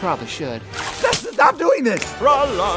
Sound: splash; snap

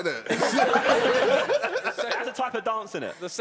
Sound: laughing

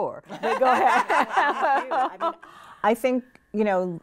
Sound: laughing

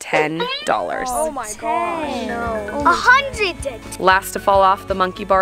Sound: groaning

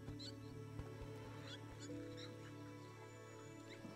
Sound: birds chirping

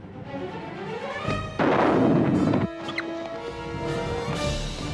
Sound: rockets firing

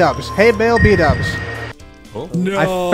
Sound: "Tiptoe" SFX

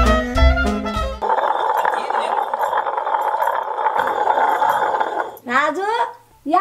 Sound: grinding stone hissing

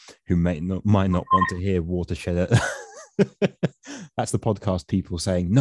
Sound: chuckles

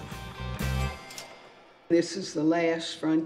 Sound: cash Register Dings

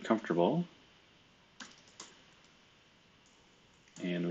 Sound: computer keyboard clicking

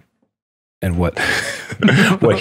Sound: light laughter

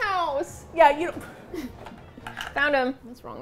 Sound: laughs

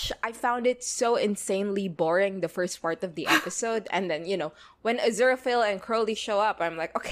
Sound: laughs

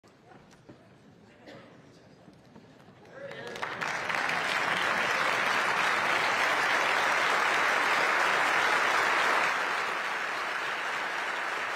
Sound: applause

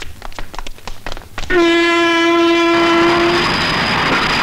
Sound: train horn blares

